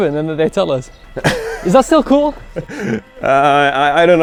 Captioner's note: laughing